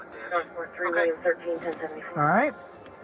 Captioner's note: radio chatter